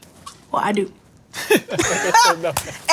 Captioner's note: laughter